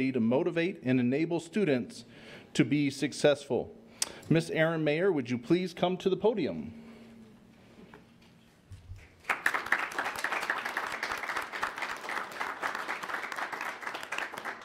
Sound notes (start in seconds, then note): 9.0 audience applauds